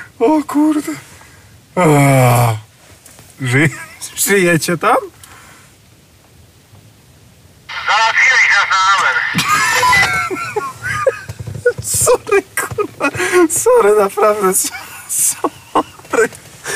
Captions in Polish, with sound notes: O kurde! -Żyjecie tam? -Załatwiłeś nas na amen. (śmiech) -Sorry, kurna, sorry, naprawdę. Sorry!